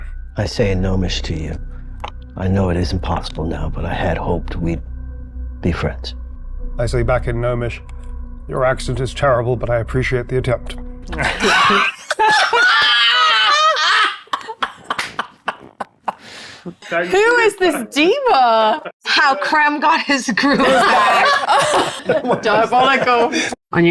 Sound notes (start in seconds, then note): 17.3 players laughing; 23.6 players laughing